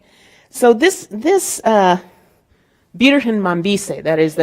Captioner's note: speaking in Spanish